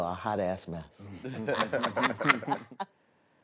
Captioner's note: laughter